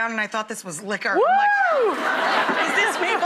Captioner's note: cheering; audience laughing